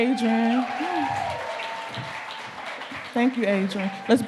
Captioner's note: audience clapping